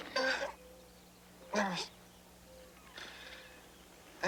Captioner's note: Tater moaning